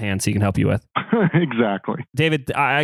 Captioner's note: laughs